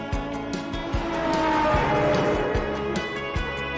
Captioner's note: train horn